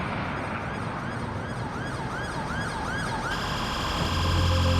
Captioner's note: distant sirens blaring